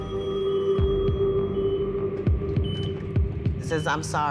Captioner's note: phone ringing